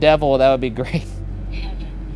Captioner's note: chuckles